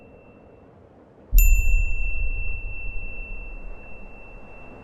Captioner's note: bell rings